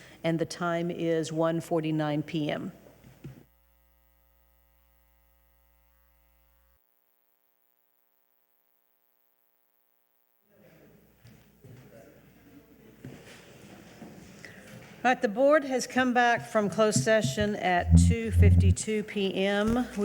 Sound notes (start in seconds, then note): none